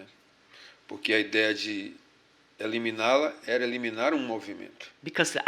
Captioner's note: speaking portuguese